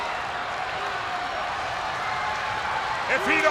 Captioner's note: spectators cheering and applauding